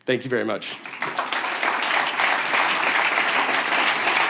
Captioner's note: applause